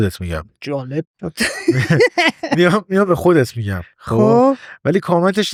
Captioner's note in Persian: خنده